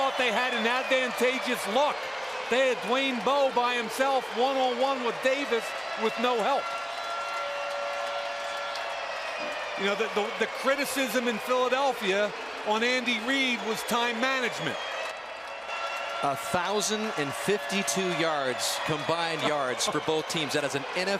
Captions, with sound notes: I thought they had an advantageous look. They had Dwayne Bowe by himself one-on-one with Davis with no help. [siren] You know, the criticism in Philadelphia on Andy Reid was time management. 1,052 yards, combined yards for both teams.